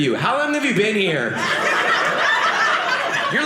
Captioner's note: audience laughing